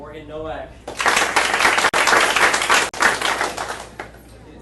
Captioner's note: audience applauding